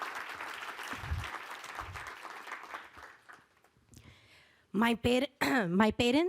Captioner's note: applause